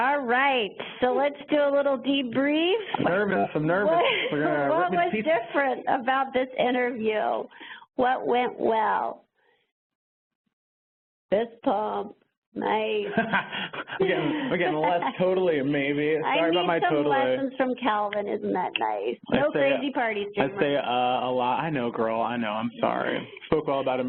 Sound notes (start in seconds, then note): 13.0 laughs